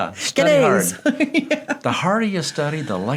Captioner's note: laughs